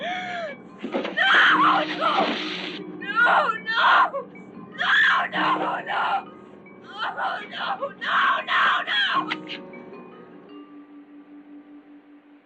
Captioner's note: screaming; crying